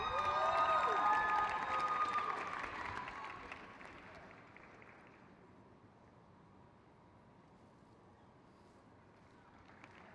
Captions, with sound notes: Allison Velk. (crowd cheers)